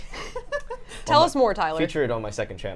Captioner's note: laughs